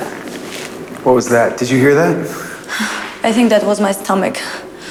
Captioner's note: stomach growling